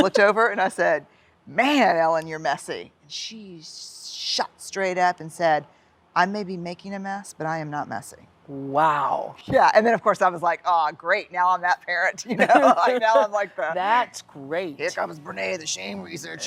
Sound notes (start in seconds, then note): 12.2 laughter; 16.2 laughs